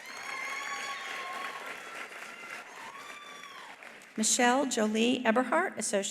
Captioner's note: attendees cheering; attendees applauding